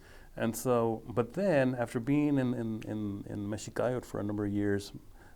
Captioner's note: speaking foreign language